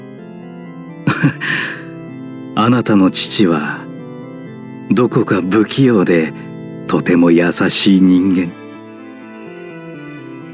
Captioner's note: laugh